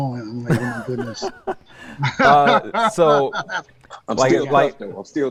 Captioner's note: laughing